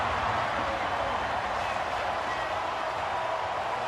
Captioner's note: crowd cheering